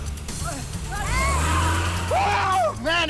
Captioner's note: overlapping chattering